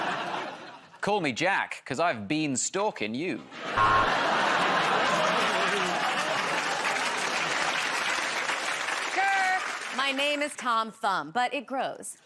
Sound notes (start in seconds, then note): 3.5 laughter; 3.8 buzzer buzzes; 4.8 applause